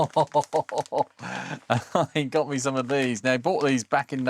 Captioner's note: laughing